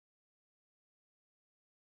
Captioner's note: none